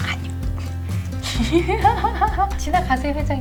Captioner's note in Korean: 웃음